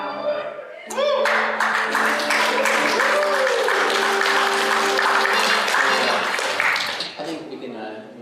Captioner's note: applause